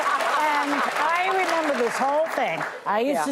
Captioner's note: laughter